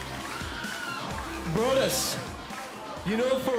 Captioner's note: applause